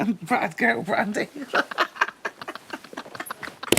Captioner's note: laughs